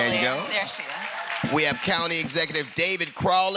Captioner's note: applause